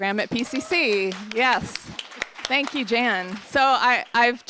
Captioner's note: applause